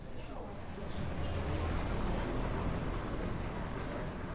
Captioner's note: car whirring